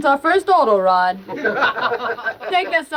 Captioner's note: all laughing